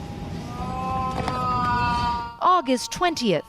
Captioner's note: wailing